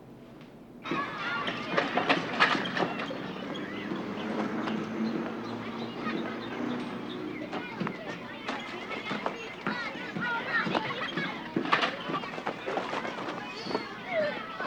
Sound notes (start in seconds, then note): 0.2 children playing; 3.1 passing traffic